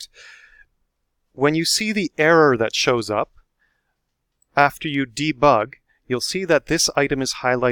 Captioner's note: click